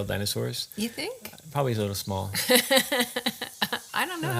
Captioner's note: laughs